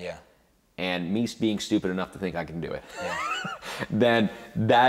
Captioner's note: laughs